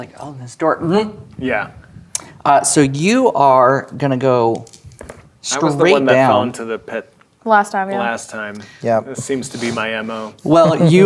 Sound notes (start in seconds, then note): 4.5 dice rolling